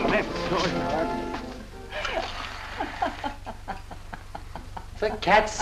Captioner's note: Kitty laughing